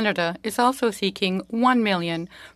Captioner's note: speaking French